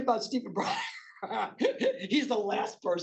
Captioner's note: laughing